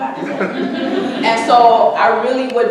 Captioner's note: audience laughing